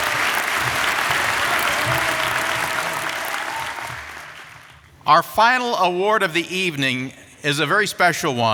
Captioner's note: applause